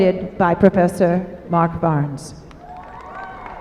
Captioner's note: applause